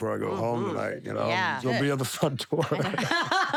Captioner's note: laugh